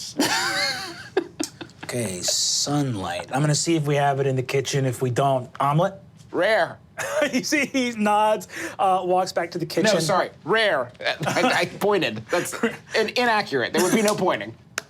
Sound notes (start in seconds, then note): 0.2 laughing; 7.5 laughs